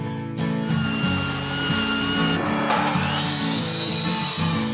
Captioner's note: electric sander whirs